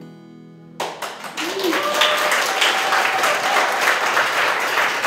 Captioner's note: cheering and applause